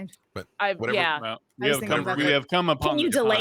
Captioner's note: murmurs